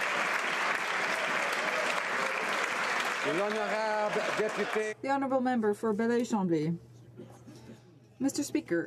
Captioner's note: some Applause